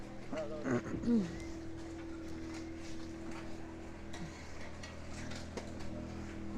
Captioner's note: roadwork noises